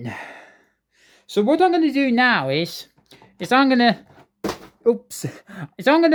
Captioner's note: item drops